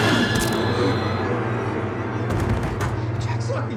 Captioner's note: dramatic music; shots firing; Fritz grunts; pensive music